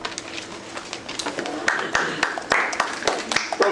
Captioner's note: applause